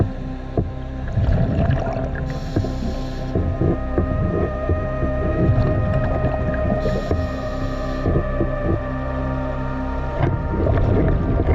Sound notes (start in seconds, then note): 2.0 underwater sounds continue; 7.9 dramatic music continues